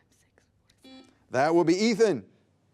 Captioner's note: buzzer beeping